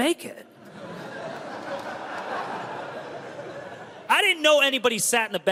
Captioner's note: crowd laughs